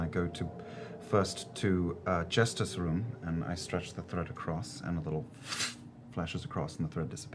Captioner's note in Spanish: revoloteo mágico